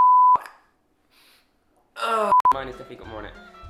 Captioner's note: loud sniff